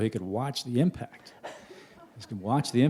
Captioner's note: laughter